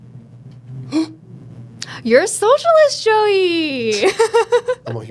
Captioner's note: gasps